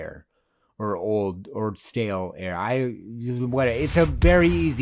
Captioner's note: mumbles